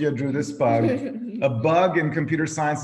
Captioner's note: laughing